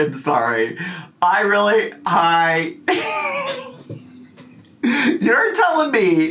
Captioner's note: laughs